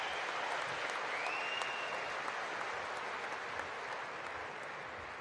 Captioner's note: applause